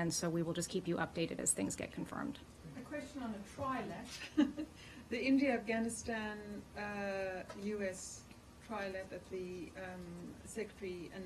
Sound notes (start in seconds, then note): 4.1 laughter